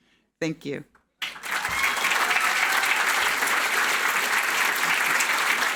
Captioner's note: audience clapping